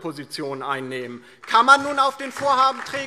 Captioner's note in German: Beifall DIE LINKE und vereinzelt SPD